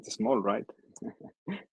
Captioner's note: laughter